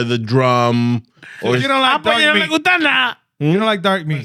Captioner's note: speaking In Foreign Language